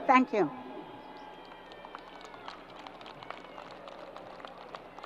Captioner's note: crowd applause